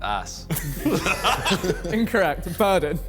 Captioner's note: men laughing